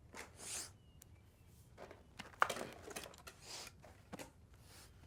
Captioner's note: Nathan sniffling